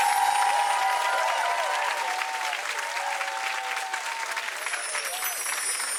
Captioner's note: audience cheering; bells chiming; audience cheering and clapping; bells chiming